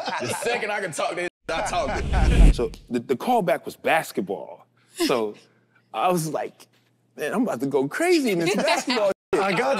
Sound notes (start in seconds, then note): 0.0 group laughs; 1.6 wind whooshes